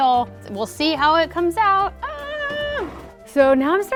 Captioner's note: groans